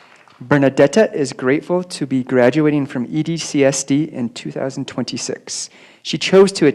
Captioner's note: applause